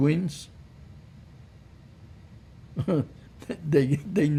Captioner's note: laughing